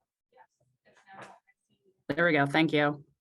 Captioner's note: indistinct background chatter